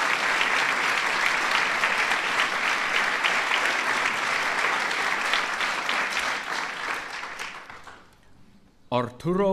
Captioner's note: applause